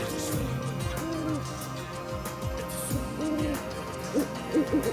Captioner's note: owl hooting